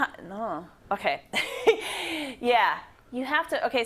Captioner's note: laugh